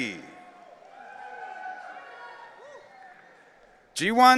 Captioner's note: audience cheering